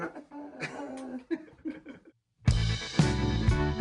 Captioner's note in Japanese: 笑い